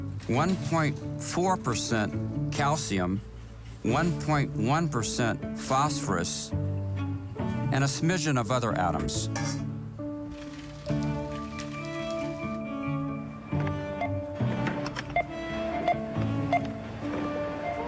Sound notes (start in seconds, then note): 10.6 soft music; 15.7 register beeping